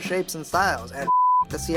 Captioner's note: beeps